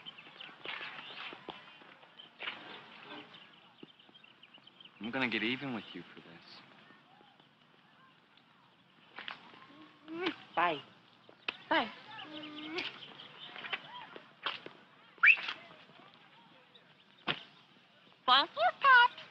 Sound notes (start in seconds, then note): 15.2 whistling